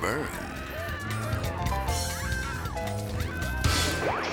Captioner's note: family screaming; slides swooshing